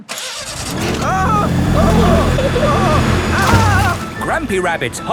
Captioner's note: grandpa screaming